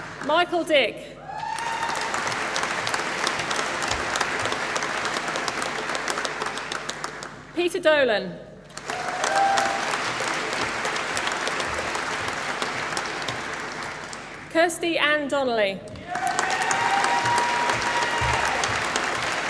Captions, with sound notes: Michael Dick. (APPLAUSE) Peter Dolan. (APPLAUSE) Kirsty Anne Donnelly. (APPLAUSE)